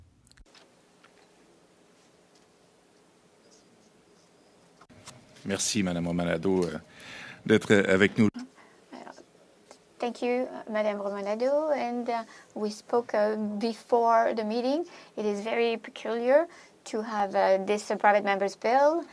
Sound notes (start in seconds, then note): 5.5 speaking French